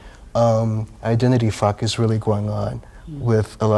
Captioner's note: beep